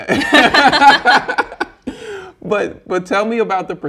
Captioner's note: both laughing